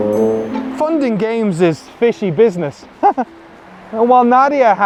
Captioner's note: giggles